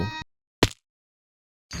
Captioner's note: splat